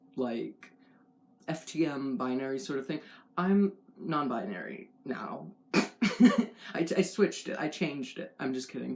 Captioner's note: laugh